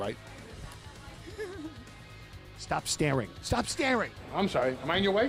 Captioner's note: laugh